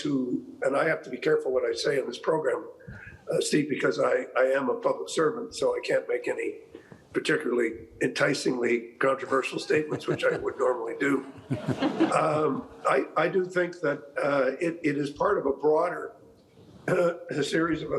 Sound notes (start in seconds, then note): 11.3 chuckling